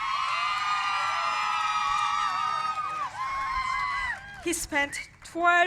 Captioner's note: cheers and applause